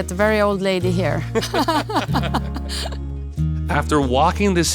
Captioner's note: both laughing